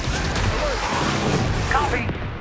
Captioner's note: projectiles booming; jets whooshing